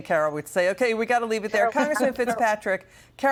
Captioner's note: laughter